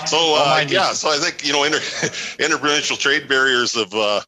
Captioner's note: laughter